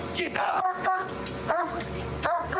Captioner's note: barking